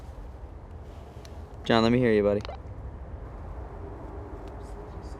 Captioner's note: walkie-talkie blips